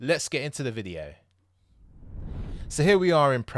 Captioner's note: air swooshing